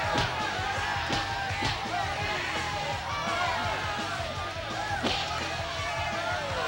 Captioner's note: crowd shouting; fists pounding